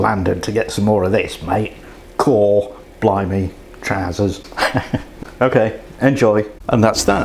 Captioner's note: laughs